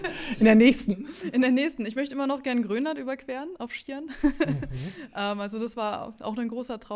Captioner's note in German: gelächter; gelächter